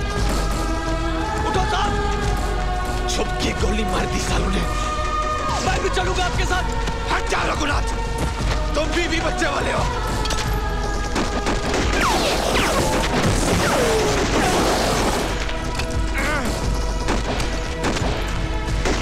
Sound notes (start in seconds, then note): 10.8 Rapid gunfire